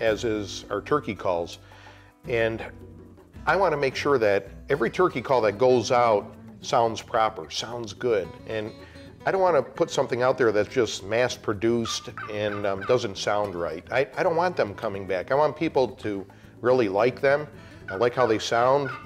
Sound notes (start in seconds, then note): 11.8 turkey call